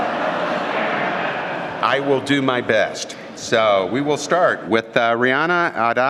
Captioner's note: laughter